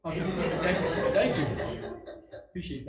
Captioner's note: members laughing